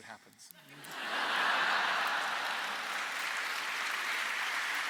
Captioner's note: laughter and applause